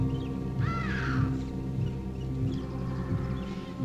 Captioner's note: birds cawing